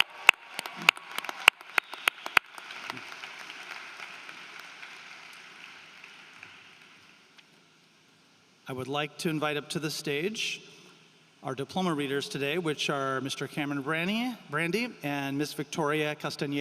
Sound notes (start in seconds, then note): 5.7 applause